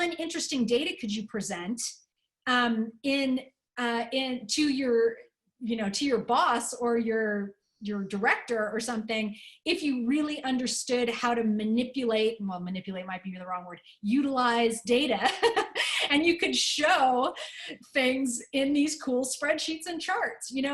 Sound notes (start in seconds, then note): 15.2 laughter